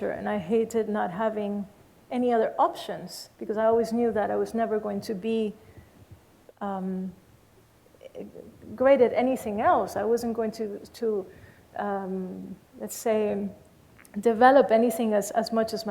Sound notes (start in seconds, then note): none